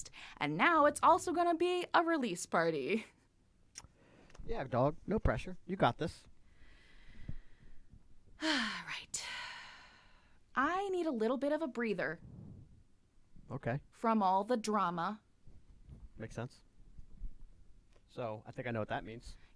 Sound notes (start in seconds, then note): 8.4 sigh